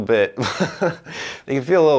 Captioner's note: laughing